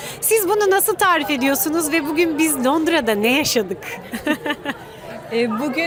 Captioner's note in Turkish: kahkaha